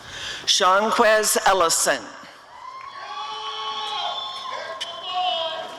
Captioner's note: applause and cheering